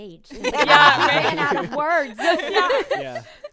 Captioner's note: group laughing